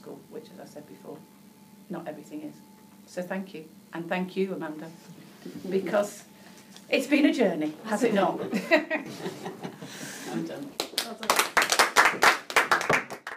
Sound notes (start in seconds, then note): 8.0 headteachers laughing; 10.7 headteachers clapping